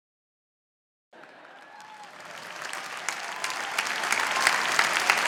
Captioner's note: applause